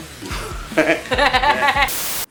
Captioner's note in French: rires